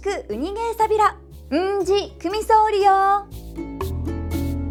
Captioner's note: in Okinawan